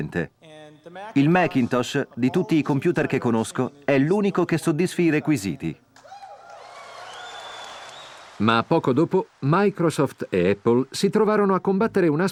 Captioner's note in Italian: Applauso